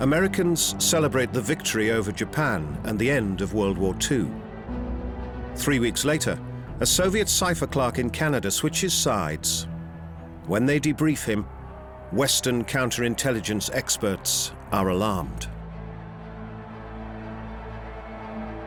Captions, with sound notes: Americans celebrate the victory over Japan and the end of World War Two. Three weeks later, a Soviet cypher clerk in Canada switches sides. When they debrief him, western counter-intelligence experts are alarmed. [cheering]